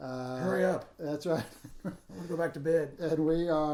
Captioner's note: chuckles